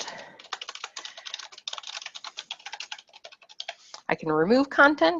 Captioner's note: keyboard keys clacking